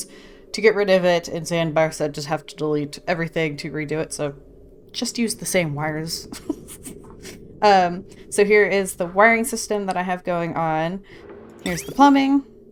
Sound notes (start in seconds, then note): 6.3 laughs